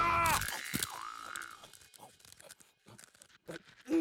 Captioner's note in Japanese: 食べる音